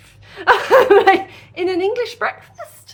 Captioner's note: nervous laugh